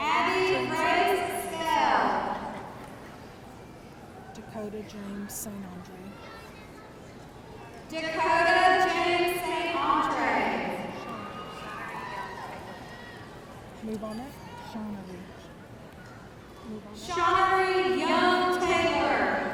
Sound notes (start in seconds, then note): 11.0 audience cheering